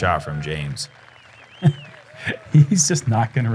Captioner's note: applause; cheering; chuckles